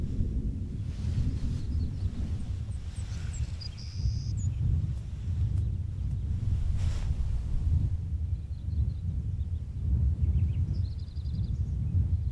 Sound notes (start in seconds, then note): 1.0 wind howling; 1.3 birds chirping